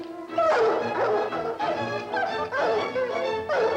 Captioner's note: dogs barking; suspenseful music